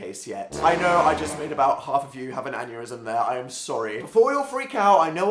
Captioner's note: horror movie noise